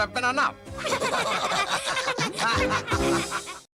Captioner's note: laugh